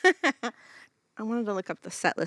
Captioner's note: chuckles